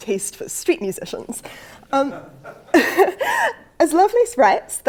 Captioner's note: laugh